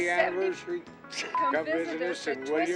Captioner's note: laugh